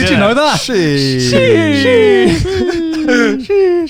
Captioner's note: laughs